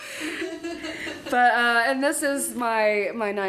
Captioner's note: interviewer laughing